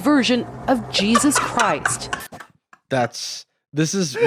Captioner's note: laughs